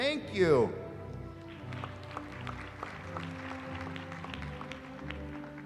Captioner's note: applause